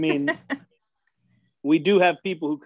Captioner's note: laughing